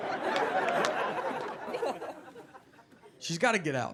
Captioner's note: audience laughing